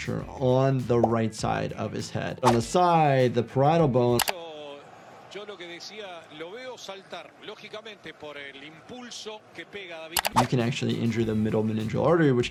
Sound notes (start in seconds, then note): 4.1 keyboard clicking; 5.1 commentator speaking in foreign language; 10.2 keyboard clicking